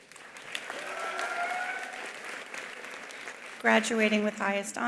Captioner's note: attendees applauding; attendees cheering